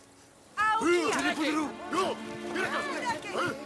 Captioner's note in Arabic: الصوت المنطوق باللغة الأجنبية